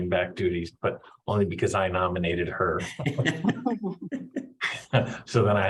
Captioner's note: laughing